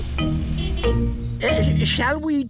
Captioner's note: horn honks